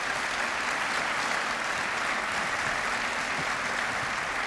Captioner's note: applause